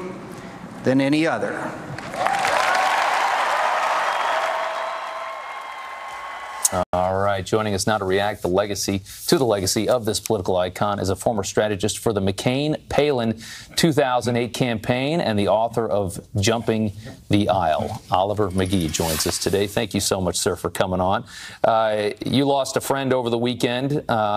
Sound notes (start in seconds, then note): 5.4 cheers and applause